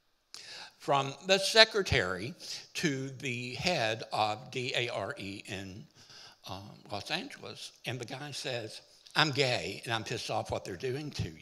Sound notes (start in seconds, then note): none